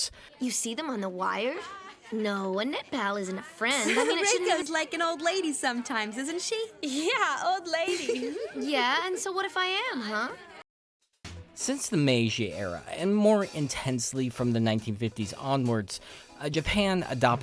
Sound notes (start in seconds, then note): 6.2 laughs